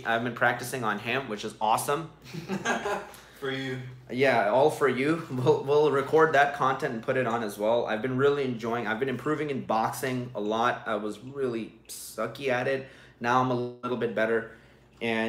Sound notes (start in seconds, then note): 2.3 laughs